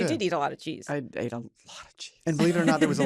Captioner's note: whispers